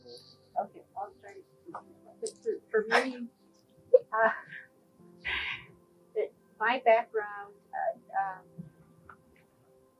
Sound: laugh

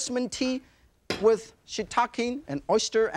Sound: pan clinks

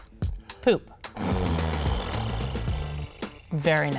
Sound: fart noise

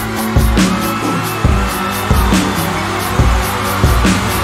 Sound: audience cheering

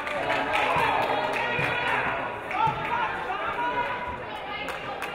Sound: audience applauding

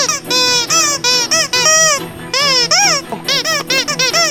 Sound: toy squeaking

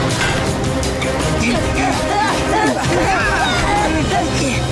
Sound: panting

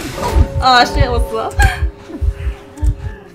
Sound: laughs

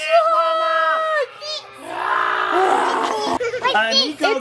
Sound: everyone growls

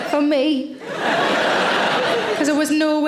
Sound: audience laughing

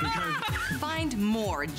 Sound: laughter

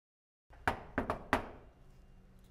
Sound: knock, knock

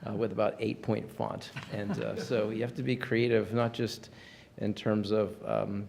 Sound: laughter

